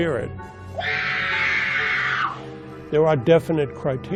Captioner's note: screaming